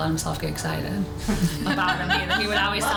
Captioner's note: laughter